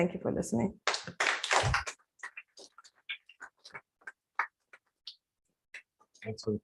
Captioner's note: applause